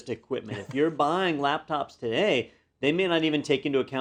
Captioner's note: laugh